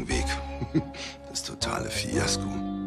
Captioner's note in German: lacht